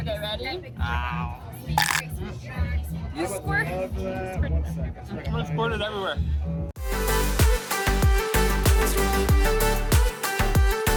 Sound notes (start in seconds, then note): 1.3 crunching noise; 6.8 upbeat music